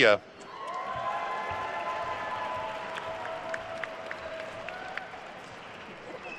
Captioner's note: attendees cheering and applauding